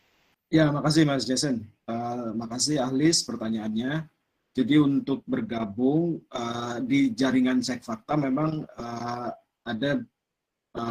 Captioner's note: non-english speech